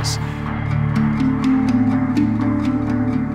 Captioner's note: dreamy sounds